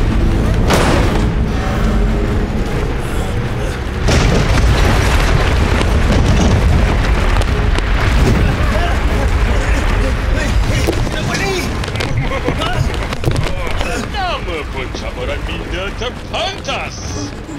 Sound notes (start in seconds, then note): 3.9 rumbling continues; 11.8 smug laughter